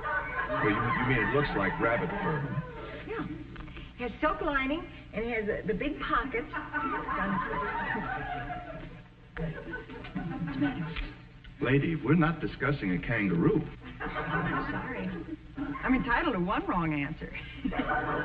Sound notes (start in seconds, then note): 9.4 audience chuckling